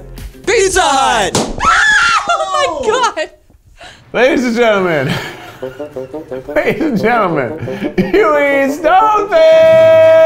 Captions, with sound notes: Pizza Hut! (cork pops) Ahh! Oh my god! Ladies and Gentlemen, (bouncy music) Ladies and Gentlemen, Hughie Stone Fish.